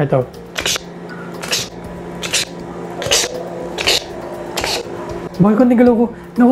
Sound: shutter sound

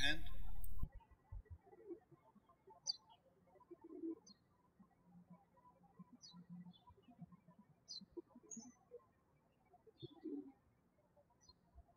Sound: birds chirping

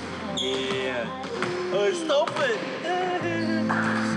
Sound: sobs

